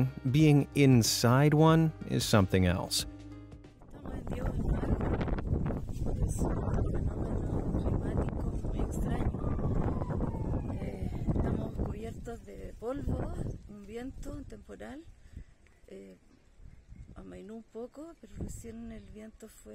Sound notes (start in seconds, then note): 4.1 wind rustling; 9.3 speaking in foreign language